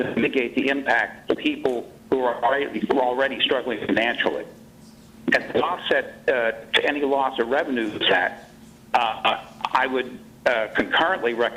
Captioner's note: choppy audio